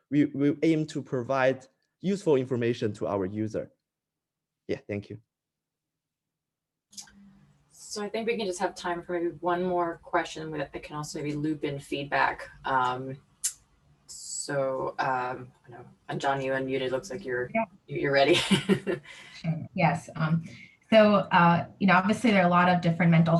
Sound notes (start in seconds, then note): 19.1 laughs